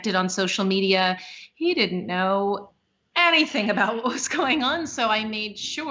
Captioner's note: laughing